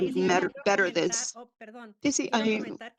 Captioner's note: speaking spanish